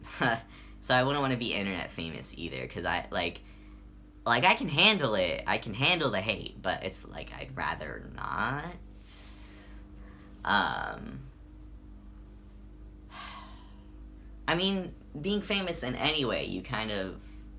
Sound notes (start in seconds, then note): 13.1 sigh